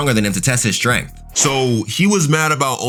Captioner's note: fire whooshing